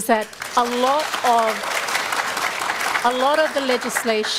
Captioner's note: applause